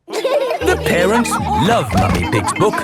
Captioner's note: all laughing